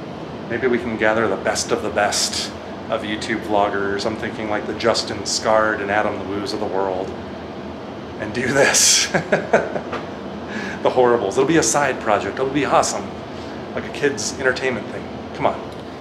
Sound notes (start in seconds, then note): 8.9 laughter